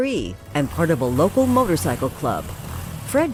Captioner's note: motorcycle engine revving